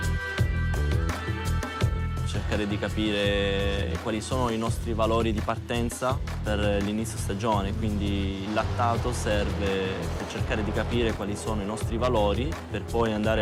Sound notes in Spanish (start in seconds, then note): 2.7 hablando italiano